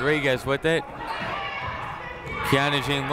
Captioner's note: people shouting in the crowd